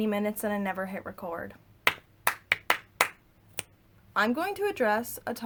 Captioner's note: clap clpa clap clap snap